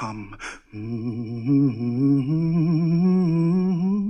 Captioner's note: man humming